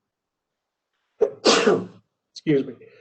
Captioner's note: coughs